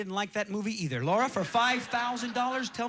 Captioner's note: audience laughing